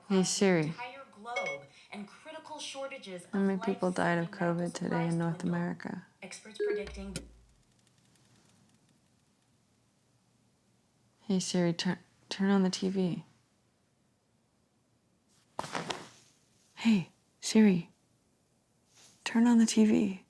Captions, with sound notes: -Hey, Siri. -[phone beeping] How many people died of COVID today in North America? [TV clicking off] Hey Siri, turn-- turn on the TV. Hey, Siri. Turn on the TV.